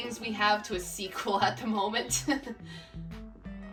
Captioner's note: laughs